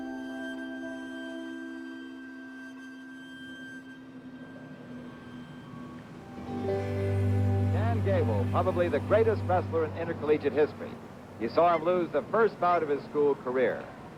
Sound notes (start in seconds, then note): 6.8 announcer's voice